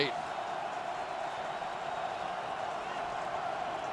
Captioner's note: crowd cheering